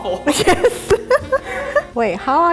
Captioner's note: laughing